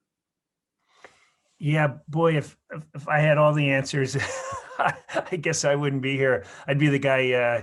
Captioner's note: laugh